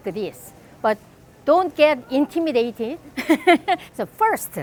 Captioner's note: laughs